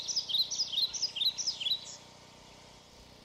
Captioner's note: birds chirp